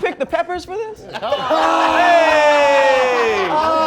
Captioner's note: laughing